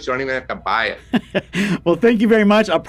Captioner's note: laughs